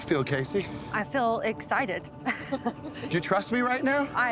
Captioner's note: laughs